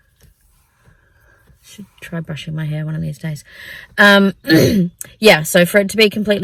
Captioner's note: clears throat